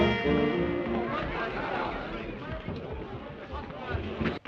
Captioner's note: urgent voices, music stops